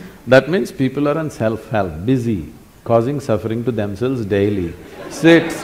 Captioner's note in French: rire